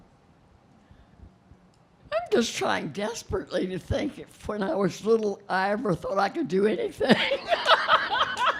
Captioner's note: laughing